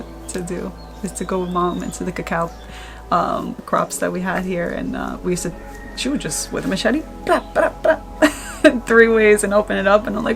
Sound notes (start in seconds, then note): 7.1 cacao slicing; 7.3 chuckling